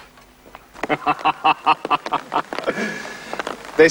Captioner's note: laughs